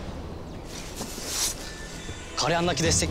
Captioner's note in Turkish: Kılıç sesi